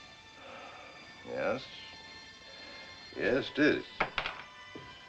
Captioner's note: sighs